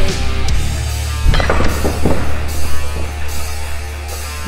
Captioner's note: cable snapping